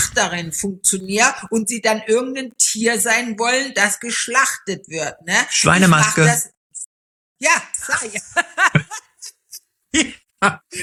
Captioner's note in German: gelächter